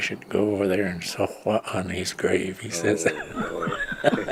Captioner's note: laughs